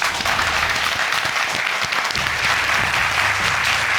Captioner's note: audience applauding